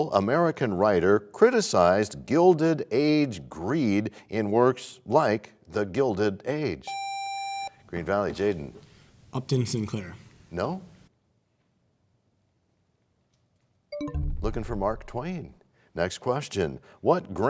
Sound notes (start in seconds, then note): 14.7 bell chimes, time expires